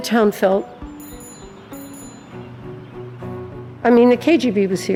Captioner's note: bell ringing